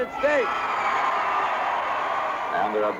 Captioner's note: crowd cheering